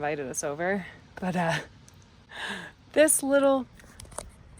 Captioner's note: laughs